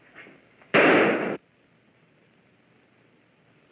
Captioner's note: gun fires